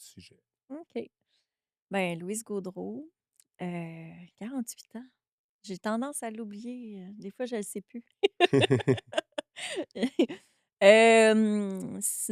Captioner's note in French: rires